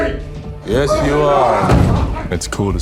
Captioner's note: nate screams